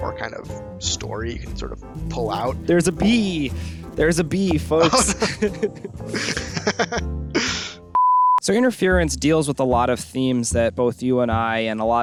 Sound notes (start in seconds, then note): 4.8 laughter